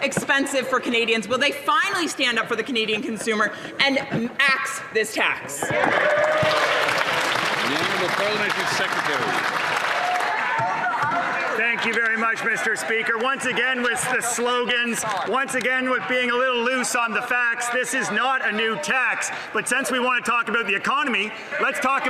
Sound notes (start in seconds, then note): 11.5 some Applause